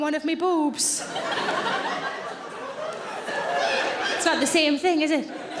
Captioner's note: audience laughing